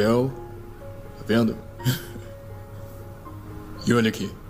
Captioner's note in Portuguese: risos